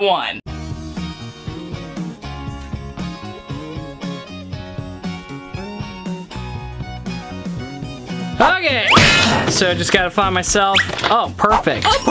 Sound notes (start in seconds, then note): 0.5 upbeat music; 8.8 comical boom